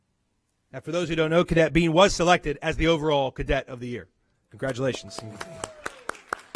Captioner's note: applause